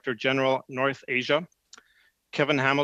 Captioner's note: speaking French